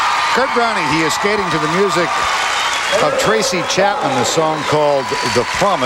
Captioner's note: crowd Cheering